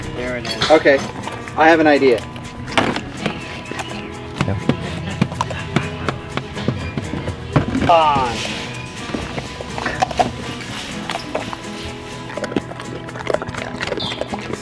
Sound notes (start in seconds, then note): 3.3 acoustic guitar music; 10.4 treats crunching